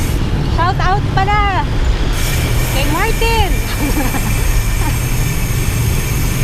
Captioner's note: laughs